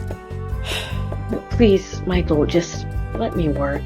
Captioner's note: sigh